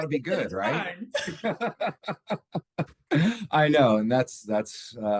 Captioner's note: laughs